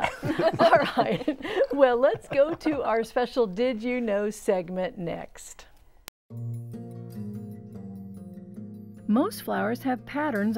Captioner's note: laughing